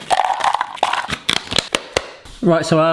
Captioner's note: cereal rattles; container snaps